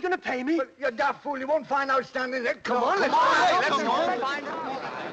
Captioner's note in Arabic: الناس يتحادثون